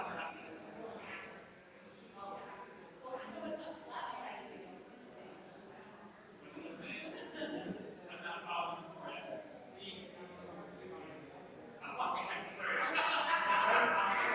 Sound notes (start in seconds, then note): 8.6 people chattering distantly continues